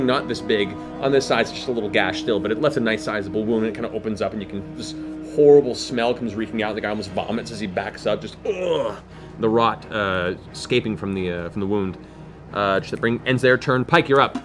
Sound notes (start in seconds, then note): 8.2 groans